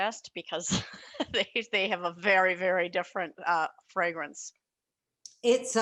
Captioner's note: laughs